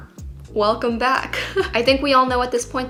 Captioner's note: giggles